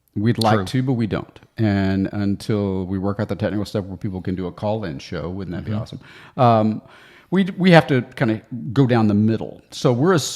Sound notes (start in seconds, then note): none